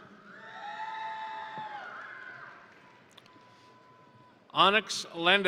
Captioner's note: crowd cheering; crowd applauding